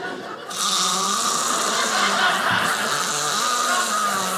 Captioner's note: snoring; audience laughing